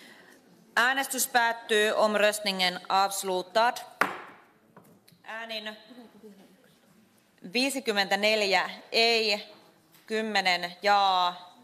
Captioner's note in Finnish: nuijan kopautus